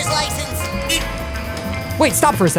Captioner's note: beeping